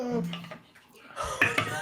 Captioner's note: dice rolling; laughing